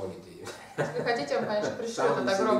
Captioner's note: hahaha